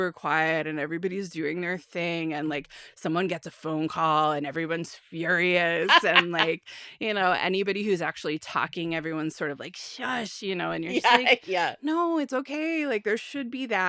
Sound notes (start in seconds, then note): 5.8 laughs